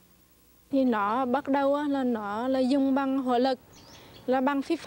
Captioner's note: speaking Vietnamese